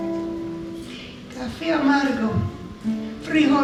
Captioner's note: speaking spanish